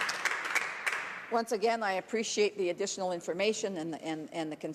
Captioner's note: some Applause